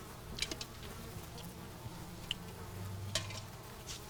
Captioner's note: metallic clacking